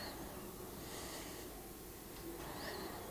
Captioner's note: concentrated breathing